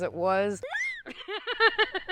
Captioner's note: laughter